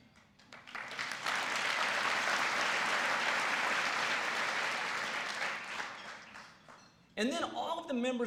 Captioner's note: applause